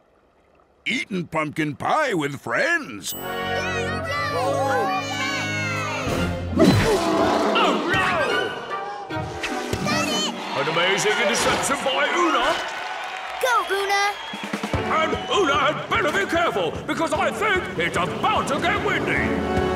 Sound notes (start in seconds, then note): 3.6 cheering